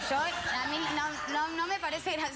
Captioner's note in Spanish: risas